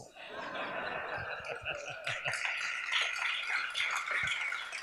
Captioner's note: audience laughs and claps